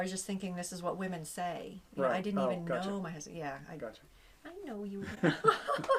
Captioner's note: laughter